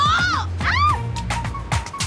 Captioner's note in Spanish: Grito